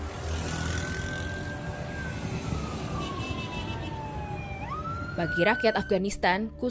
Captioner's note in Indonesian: Sirine berbunyi